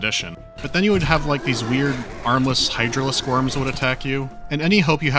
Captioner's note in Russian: сердитые звуки инопланетных монстров